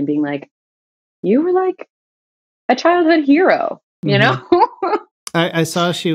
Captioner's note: laughter